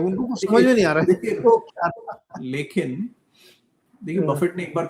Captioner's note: nasal voice